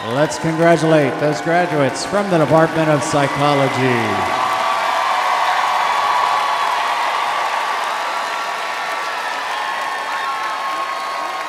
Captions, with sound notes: - Let's congratulate those graduates from the Department of Psychology. (crowd applauds)